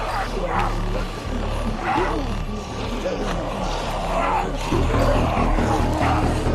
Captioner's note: zombies growling